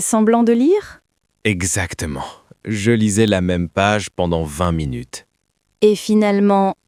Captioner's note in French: rire